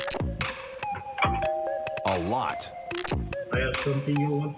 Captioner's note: doorbell ringing